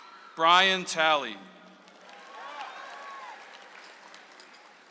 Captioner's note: audience applauds; audience applauds